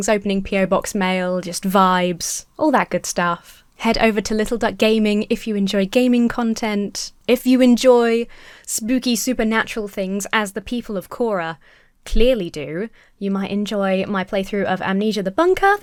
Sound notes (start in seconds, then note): none